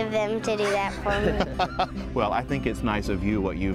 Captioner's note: laughing